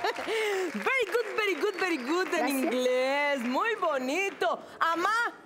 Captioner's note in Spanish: Risas